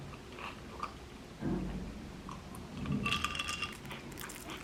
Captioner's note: gulping